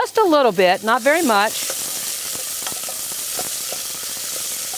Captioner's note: onion sizzling